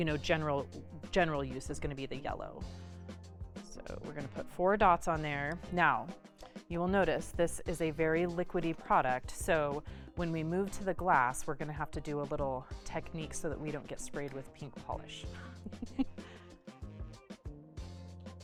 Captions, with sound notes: general use is gonna be the yellow. So we're gonna put four dots on there. Now, you will notice this is a very liquidy product, so when we move to the glass, we're gonna have to do a little technique so that we don't get sprayed with pink polish. (laughs)